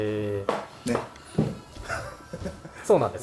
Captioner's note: laughs